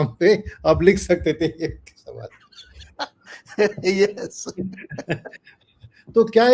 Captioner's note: laughs